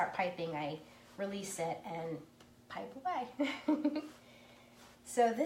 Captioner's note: laughs